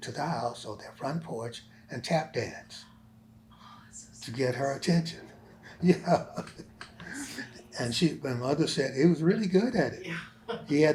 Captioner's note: laughs